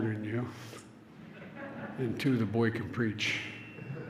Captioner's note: laughter